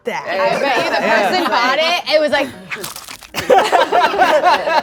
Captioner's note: group chuckling; cornflake crunching; group laughing